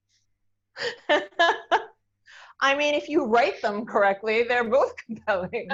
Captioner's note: laughs